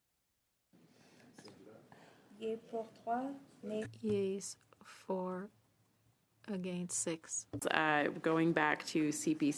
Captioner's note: speaking French